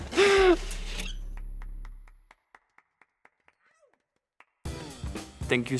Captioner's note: giggling; clapping